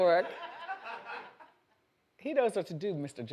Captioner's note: audience laughs